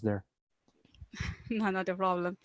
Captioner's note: laughing